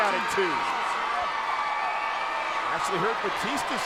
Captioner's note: crowd cheering